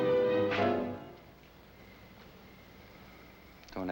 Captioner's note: slapping